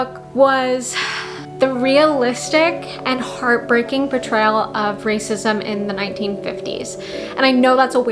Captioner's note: sigh